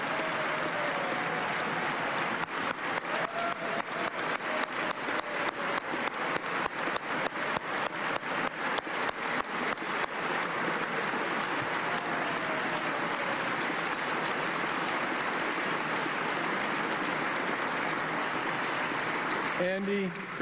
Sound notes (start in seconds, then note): 17.8 applause